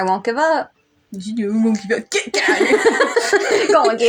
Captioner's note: laugh